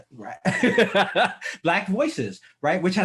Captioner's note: laughs